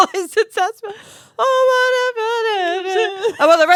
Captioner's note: laughing; humming